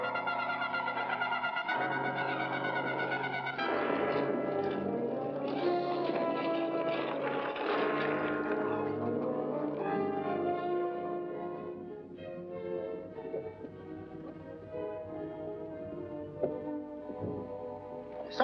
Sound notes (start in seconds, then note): 4.2 dramatic music; 5.3 carriage rattling; 10.8 dramatic music